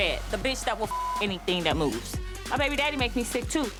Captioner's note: beep